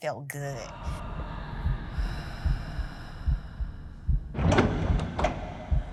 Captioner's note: muffled breathing, heartbeat